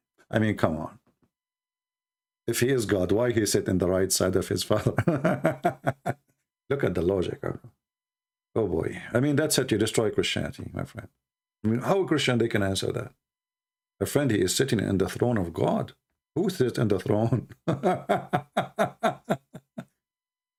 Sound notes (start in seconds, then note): 4.8 Ketawa